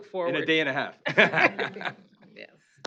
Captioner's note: laughter